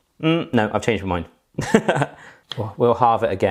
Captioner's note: laughing